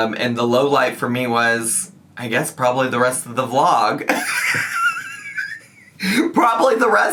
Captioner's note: laughs